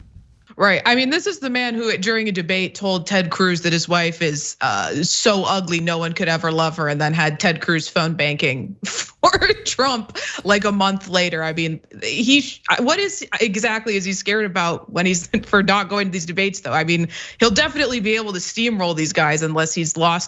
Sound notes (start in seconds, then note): 9.2 laugh